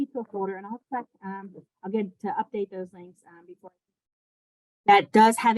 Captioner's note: audio off